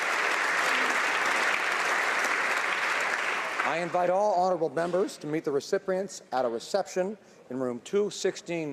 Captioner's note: applause